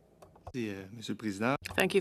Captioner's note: speaking French